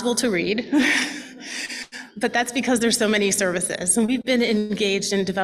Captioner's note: laughs